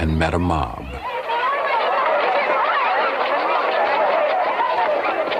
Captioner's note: people exclaiming